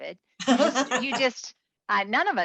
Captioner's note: laughing